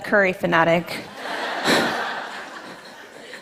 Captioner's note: laughter